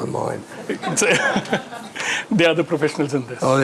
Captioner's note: all laughing